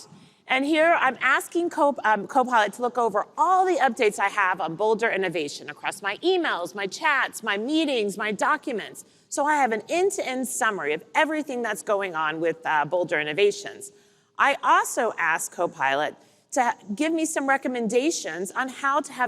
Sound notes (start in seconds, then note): none